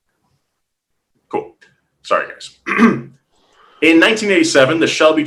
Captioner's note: clears throat